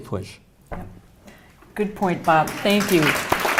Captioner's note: applause